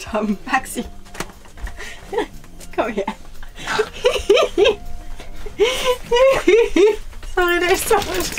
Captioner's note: laughter